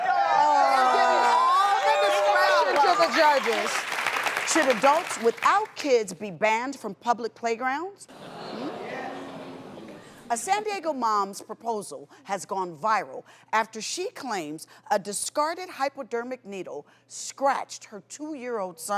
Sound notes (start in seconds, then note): 0.0 audience oohs; 0.0 cheering and applause; 8.1 audience oohs